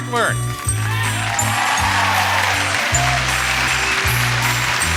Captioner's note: audience cheers